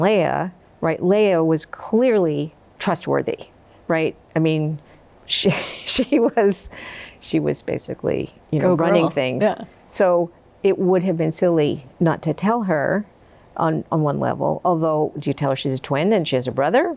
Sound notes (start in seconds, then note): 6.0 laughs